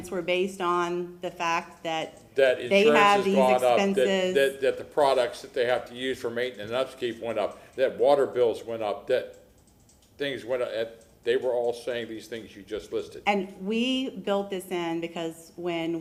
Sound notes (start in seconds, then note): 2.3 ~audio distortion~